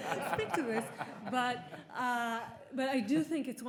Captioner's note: audience laughing